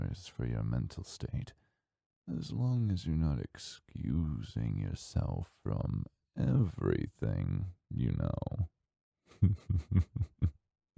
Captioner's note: chuckle